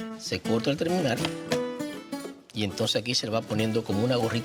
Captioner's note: speaks Spanish